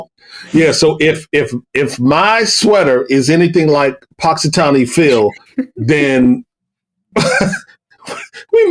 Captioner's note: chuckle